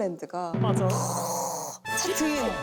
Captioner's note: drum rolls; gasps